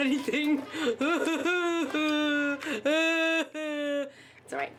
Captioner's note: bawls